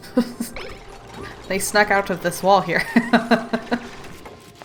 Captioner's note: laughs